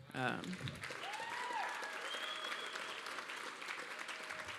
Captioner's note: cheers and applause